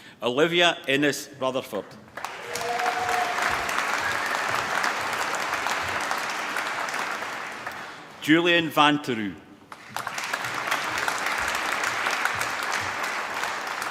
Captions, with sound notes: Olivia Ines Rutherford. (APPLAUSE) Julien Vantourout. (APPLAUSE)